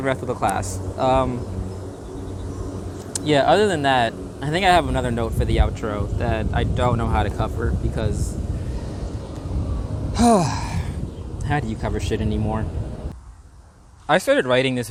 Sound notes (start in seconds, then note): 10.1 big sigh